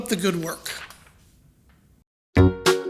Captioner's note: papers rustling; playful music